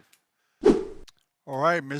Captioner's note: wooshing sound as scene transitions